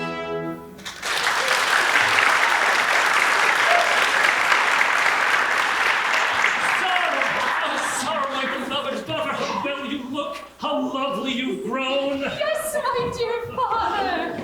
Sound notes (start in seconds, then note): 0.8 applause